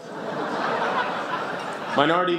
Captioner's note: laughter